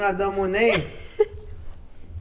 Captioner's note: chuckles